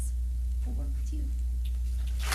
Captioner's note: applause